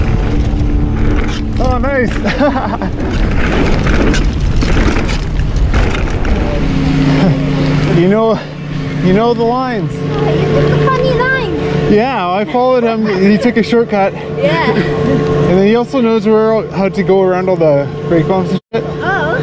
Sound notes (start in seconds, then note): 2.1 laughs